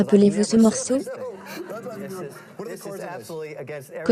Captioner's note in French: rires